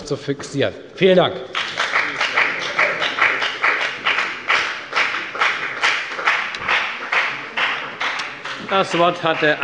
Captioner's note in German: Beifall bei der FDP